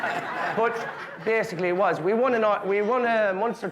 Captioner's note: guests laughing